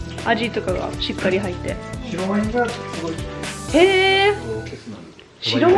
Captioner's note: speaking foreign language